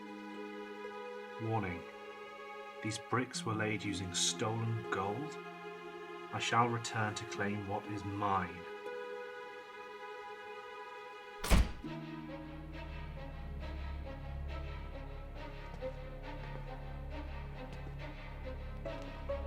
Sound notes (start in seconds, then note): 11.4 door thudding; 12.7 ominous tempo music